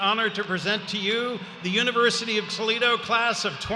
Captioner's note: cheers and applause